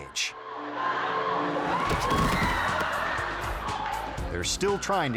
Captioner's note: audience gasping; actor thudding